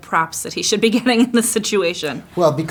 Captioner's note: laughing